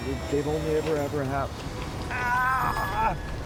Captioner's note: groans